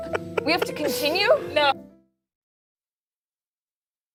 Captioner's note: laughter